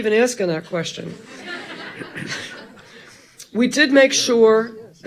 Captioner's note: audience laughing